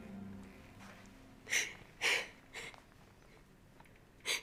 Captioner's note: Megan sobbing